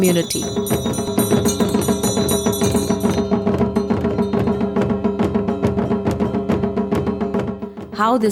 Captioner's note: bells chimes; intense drumming